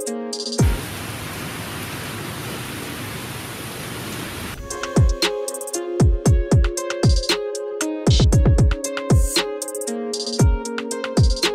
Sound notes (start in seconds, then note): 0.6 rain pouring; 4.6 slow alternative music